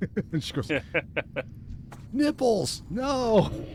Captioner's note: laughs